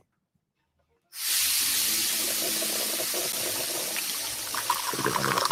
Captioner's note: cup filling